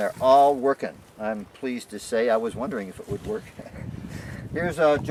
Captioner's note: chuckling